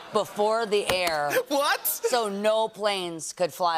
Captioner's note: laughter